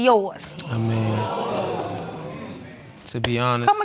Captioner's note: audience gasps